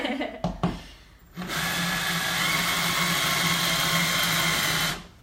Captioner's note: drill whirring